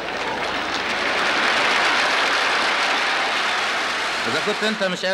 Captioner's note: applause